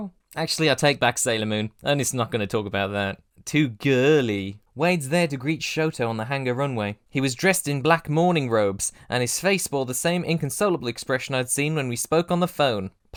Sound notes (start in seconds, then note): 3.4 mock revulsion